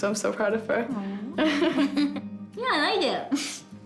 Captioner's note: both laugh